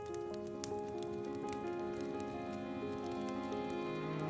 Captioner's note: fire crackles